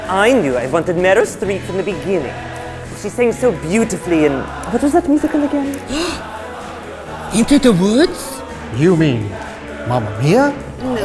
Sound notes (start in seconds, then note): 5.7 gasps